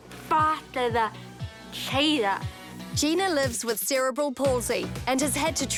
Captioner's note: none